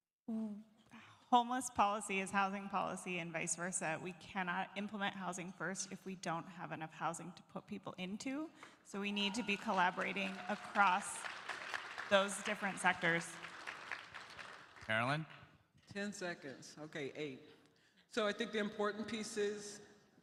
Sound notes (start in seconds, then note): 13.3 applause